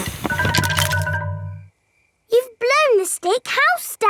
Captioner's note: blowing